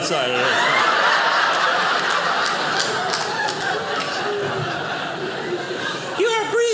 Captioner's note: audience laughing